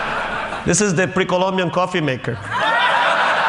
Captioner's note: Laughter